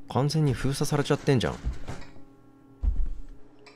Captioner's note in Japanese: 引き戸の音：ｶﾞﾗｶﾞﾗ…ﾊﾞﾀﾝ; 足音：ﾄﾝ…ﾄﾝ…